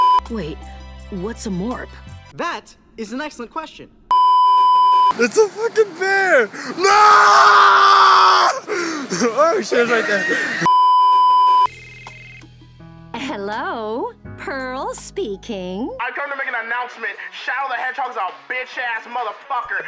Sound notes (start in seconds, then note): 0.0 beeeeeep; 4.1 beeeeeep; 8.6 low pitched wheeze; 10.6 beeeeeep